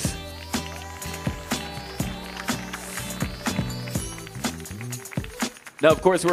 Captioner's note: audience cheering; audience applauding